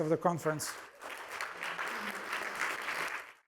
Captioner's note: applause